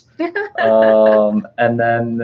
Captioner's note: laughing